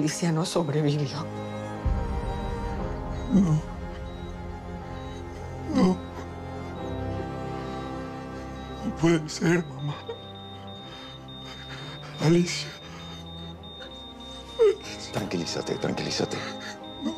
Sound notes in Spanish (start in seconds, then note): 14.6 Pitido acelerado